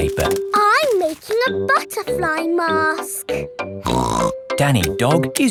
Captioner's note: snorts